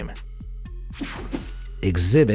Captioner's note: air whooshing